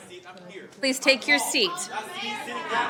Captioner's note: crowd noise